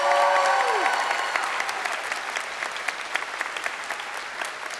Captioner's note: crowd cheering